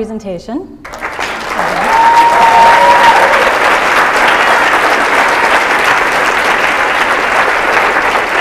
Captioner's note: sustained applause